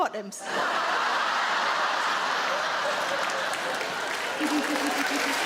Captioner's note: audience laughing; audience clapping